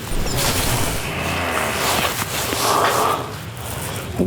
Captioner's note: sound of heavy breathing